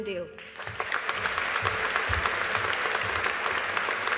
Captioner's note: audience applauding